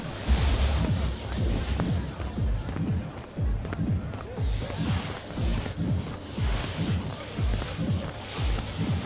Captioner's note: water splashing